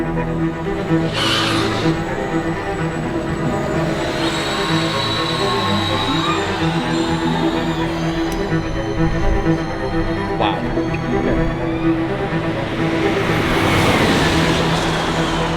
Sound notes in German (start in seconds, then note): 3.6 hochfrequente Startgeräusche; 12.7 Geräusch vorbeifahrende Rennwagen; 12.7 weiterhin Musik, treibende Streicher